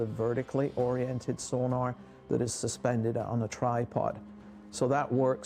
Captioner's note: voiceover